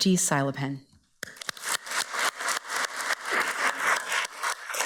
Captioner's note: everybody applauds